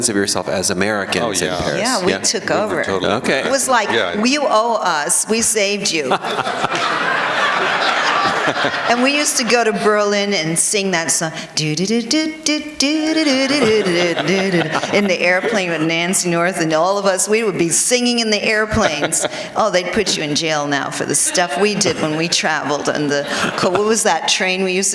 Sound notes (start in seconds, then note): 5.9 laughter; 11.9 singing